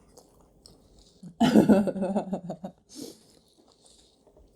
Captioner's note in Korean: 웃음소리